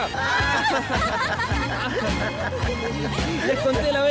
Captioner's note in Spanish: Todos ríen